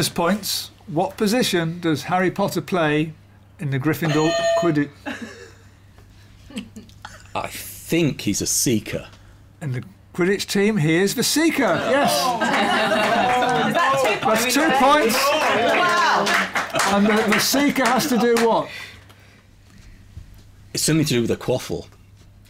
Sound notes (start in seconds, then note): 4.1 clang; 5.0 laughter; 11.7 oohing